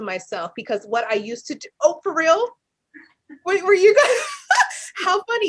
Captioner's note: laughs